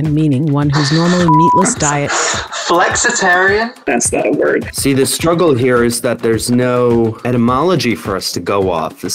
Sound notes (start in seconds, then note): 1.2 beep